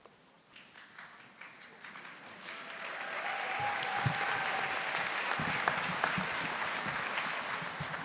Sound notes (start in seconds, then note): 2.3 audience applauding